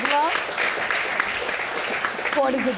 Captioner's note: audience clapping